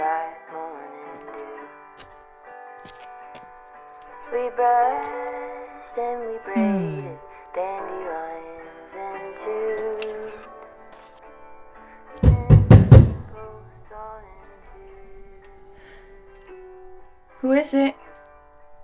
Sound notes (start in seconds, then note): 12.2 knocking